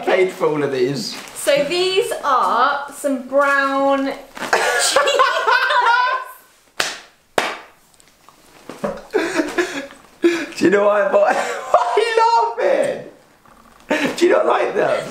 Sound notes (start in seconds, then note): 4.6 laughs and claps; 11.7 laughs